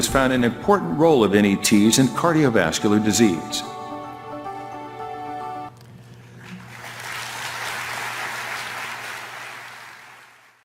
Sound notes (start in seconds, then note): 6.2 applause